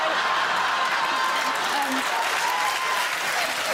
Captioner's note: laughter, applause